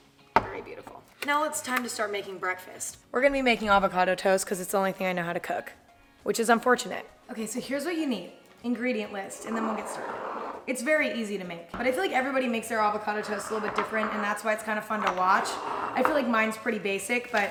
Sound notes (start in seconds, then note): none